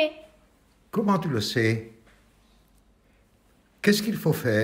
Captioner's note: silence